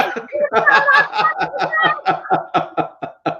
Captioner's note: chuckling